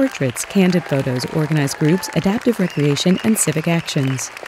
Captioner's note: applause continues, audience cheers, whistles